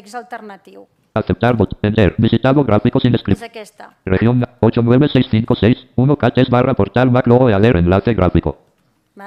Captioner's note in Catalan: veu del lector de pantalla